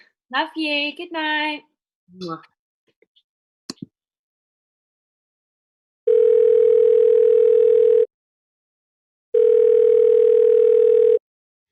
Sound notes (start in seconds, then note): 6.2 dial tone